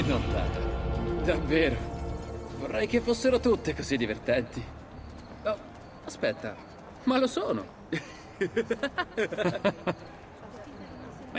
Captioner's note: he and Federico laugh